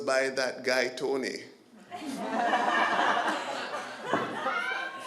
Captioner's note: laughter